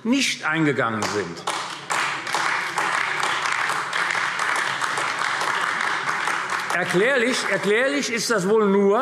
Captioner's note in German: Beifall AfD